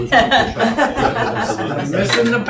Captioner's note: laughing